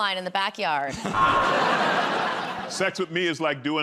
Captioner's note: buzzer